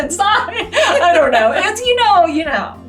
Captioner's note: laughing; laughs